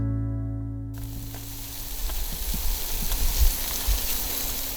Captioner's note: sizzling